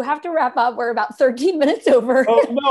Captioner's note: laughter